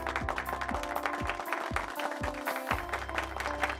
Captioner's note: applause